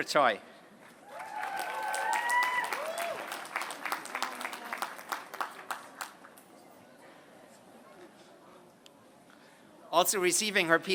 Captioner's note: applause